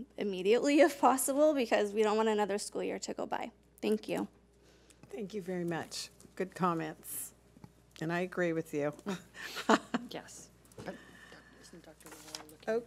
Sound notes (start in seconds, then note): 9.4 laughter